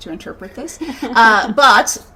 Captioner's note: laughing